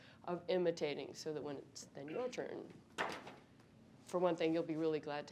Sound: speaking faintly

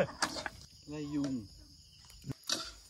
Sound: coconut burning

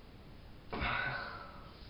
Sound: exhale

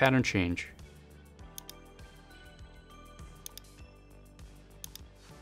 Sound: mouse clicking

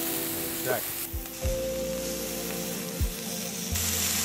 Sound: pan sizzling

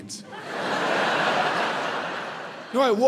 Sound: audience laughs

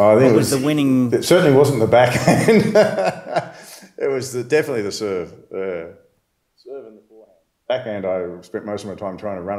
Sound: laughs

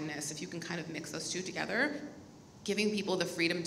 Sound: none

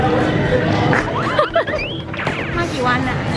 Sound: laughing

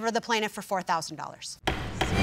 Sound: bangs gavel

